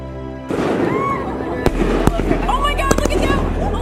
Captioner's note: woman yells